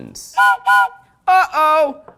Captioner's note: whistle blows